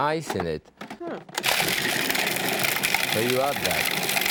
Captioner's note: blender whirring